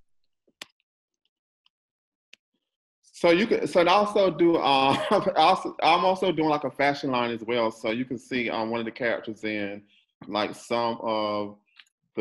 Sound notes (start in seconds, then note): 4.9 coughs